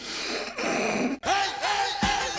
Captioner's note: snorting